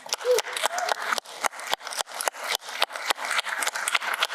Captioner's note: applause